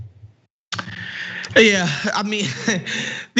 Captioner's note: laugh